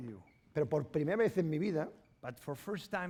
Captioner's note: speaking spanish